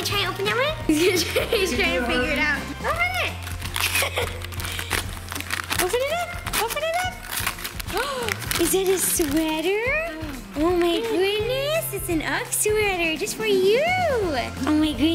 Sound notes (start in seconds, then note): 3.9 laughter; 7.9 gasp